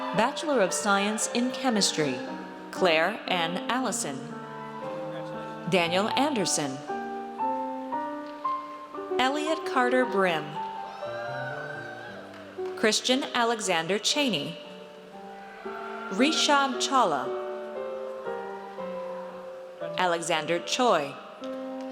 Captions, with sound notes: Bachelor of Science in Chemistry. Claire N. Allison. Daniel Anderson. Elliot Carter Brim. (audience cheers) Christian Alexander Chaney. Rishab Chawla. Alexander Choi.